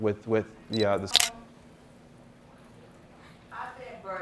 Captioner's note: camera clicks